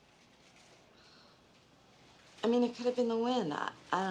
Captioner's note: Rita sighs